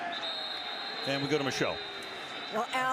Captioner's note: whistle